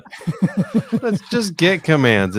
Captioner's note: laughing